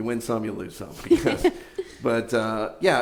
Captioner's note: giggles